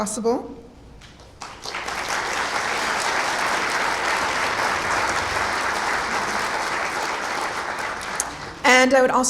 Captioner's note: clapping